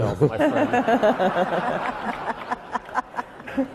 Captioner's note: laughing